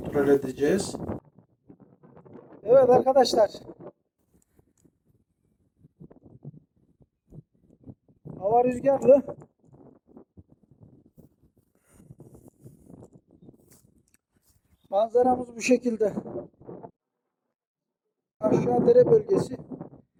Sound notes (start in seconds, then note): 4.6 wind noise; 10.0 wind and noises when I step